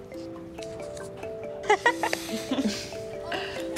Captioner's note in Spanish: risas